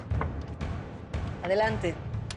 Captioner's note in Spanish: Toques en la puerta